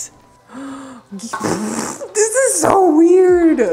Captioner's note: gasps